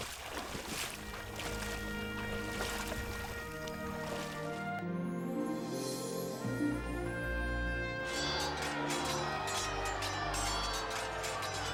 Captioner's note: water splashing; water splashing